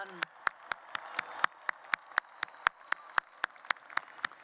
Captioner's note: applause